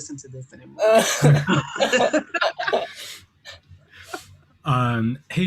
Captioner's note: laughter